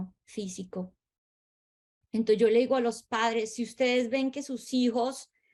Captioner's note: speaking Spanish